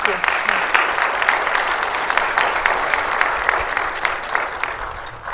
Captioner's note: audience applauding